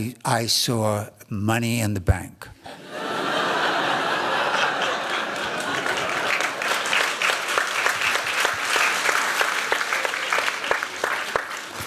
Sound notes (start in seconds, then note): 2.6 laughter; 8.6 applause